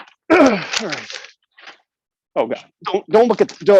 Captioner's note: paper rustles; clears throat